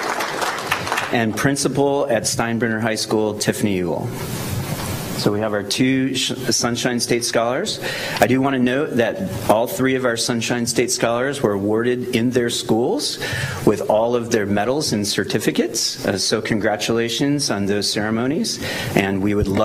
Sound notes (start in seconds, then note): 2.1 applause